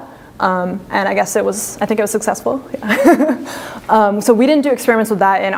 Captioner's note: laughs